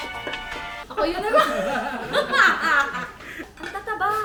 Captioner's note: laughter